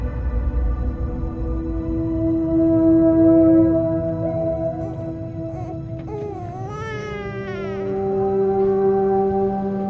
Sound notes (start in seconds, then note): 4.5 baby crying